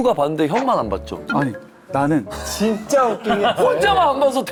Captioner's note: flustered